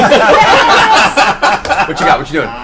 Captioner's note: all laugh